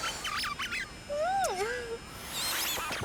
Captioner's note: kiss